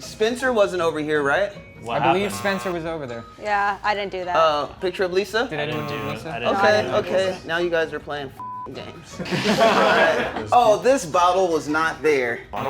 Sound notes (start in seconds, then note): 8.6 beep; 9.1 movers laughing